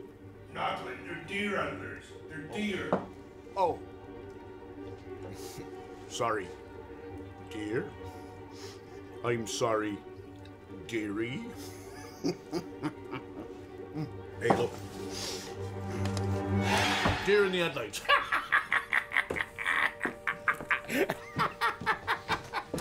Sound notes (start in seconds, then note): 18.6 cackles